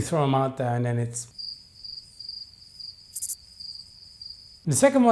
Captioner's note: crickets chirping